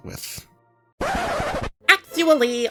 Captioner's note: record screeches